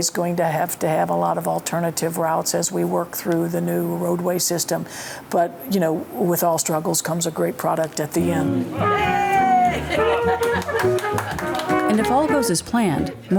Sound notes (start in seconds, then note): 8.7 laughs; 8.9 crowd clapping